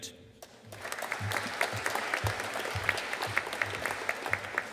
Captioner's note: audience applauding